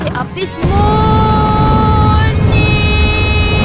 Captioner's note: wooshing